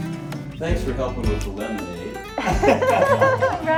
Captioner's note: laughter